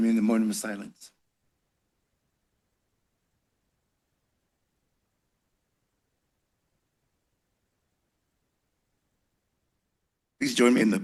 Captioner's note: silence